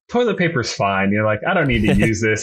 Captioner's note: laughs